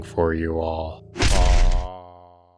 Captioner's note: thud